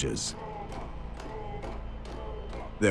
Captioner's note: chanting